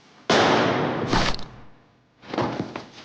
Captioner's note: gun firing; body thudding